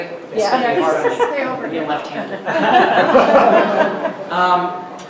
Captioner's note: laughing